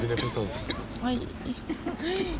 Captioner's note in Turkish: Öksürüyor